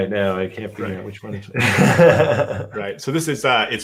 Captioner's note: laughs